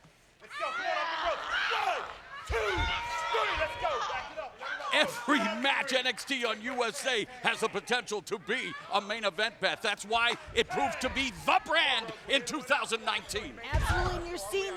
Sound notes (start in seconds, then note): 0.5 screams; 0.5 exclaims